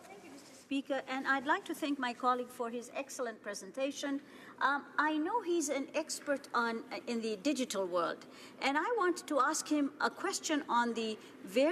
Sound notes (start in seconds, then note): none